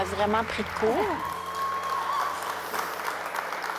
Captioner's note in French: applaudissements